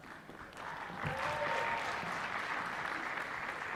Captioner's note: applause